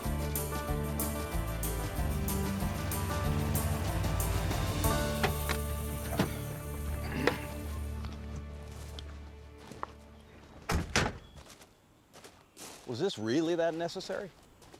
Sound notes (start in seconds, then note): 0.0 upbeat country music; 6.0 car doors open; 10.6 car doors close